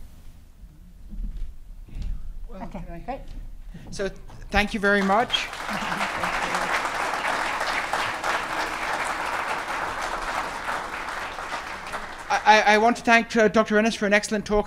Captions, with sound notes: Okay, great. - So thank you very much. (Audience applauding) I want to thank Dr. Orrenius for an excellent talk